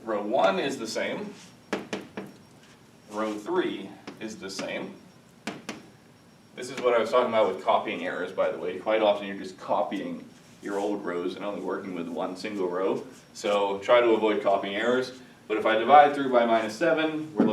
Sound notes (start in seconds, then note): 1.6 chalk tapping; 5.4 chalk tapping